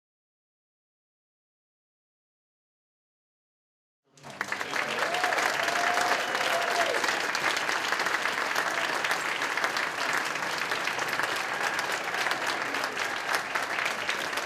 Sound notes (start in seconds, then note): 4.1 cheers and applause; 10.8 cheers and applause continue